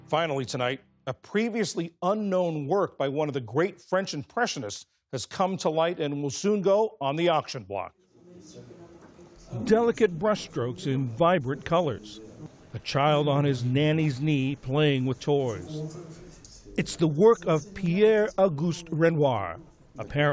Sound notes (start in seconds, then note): 10.3 voice-over